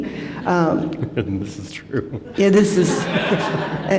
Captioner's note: laughter